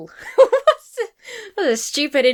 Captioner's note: laughs